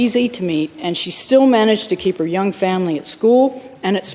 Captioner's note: none